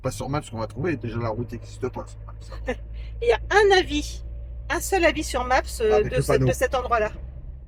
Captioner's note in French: rires